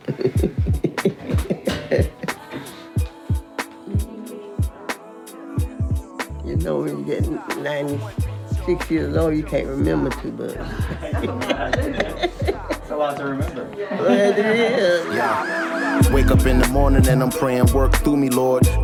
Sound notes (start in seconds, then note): 0.0 laughing; 12.1 laughing